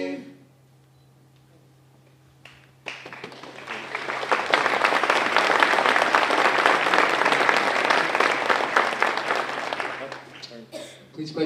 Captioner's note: applause